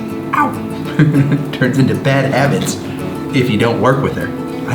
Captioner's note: laughs